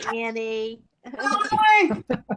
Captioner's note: laughter